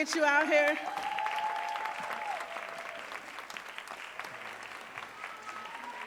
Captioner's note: audience cheering and applauding